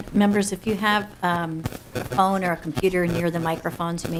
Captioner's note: interference with audio